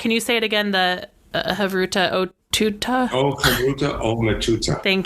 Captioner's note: laughs